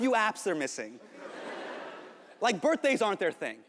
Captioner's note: audience laughing